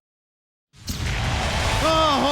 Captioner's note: explosion blasting